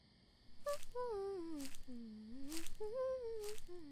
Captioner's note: MEGUMI hums